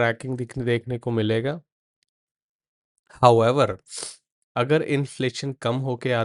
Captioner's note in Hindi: नाक से की जाने वाली आवाज़